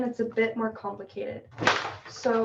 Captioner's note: crashing sound